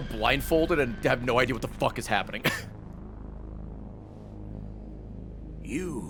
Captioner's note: laughs